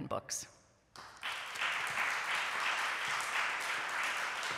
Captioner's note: applause